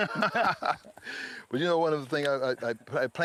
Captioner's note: both laughing